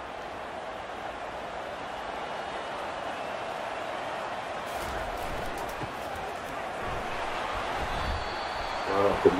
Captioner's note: crowd cheering